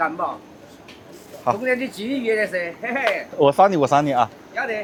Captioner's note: chongqing dialect